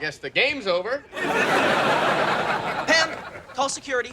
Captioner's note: audience laughing